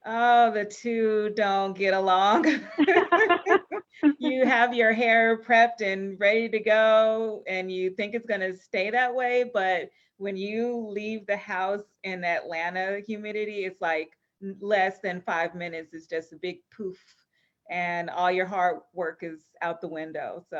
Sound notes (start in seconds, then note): 2.5 laughing